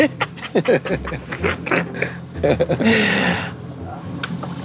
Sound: both Chuckling

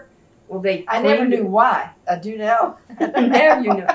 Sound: laughs

